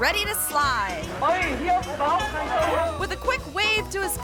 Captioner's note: onlookers speaking in foreign language